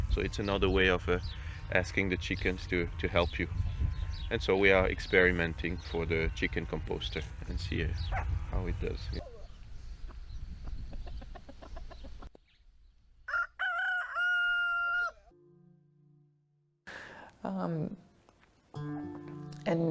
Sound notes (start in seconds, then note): 10.5 chicken clucking; 13.2 cock crowing